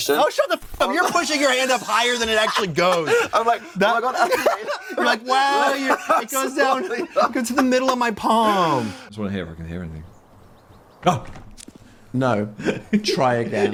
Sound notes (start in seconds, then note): 4.6 laugh